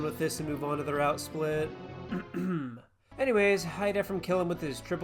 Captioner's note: ahem